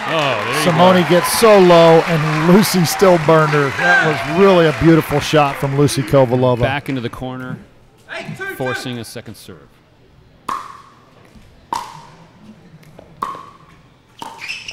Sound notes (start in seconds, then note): 10.4 ball bouncing